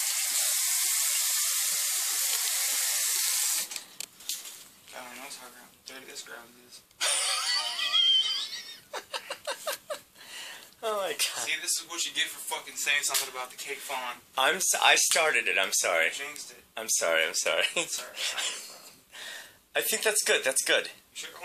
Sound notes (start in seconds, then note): 5.7 water running; 7.0 laughter